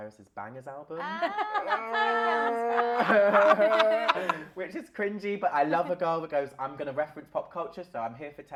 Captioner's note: laughter